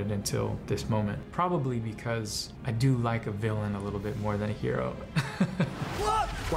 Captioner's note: laughs